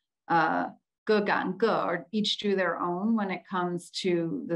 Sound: speaks in Chinese

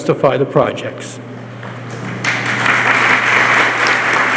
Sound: applause

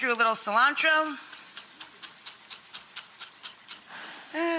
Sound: chopping

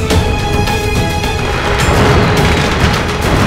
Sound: crackers bursting

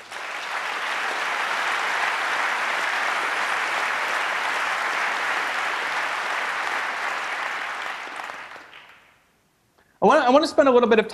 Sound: applause

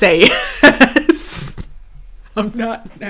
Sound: laughing

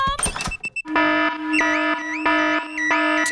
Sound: alarm blaring

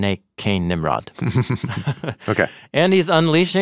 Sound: chuckling

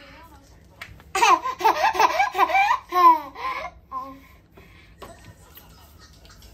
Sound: laughing

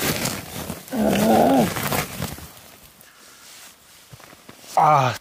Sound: grunts in frustration

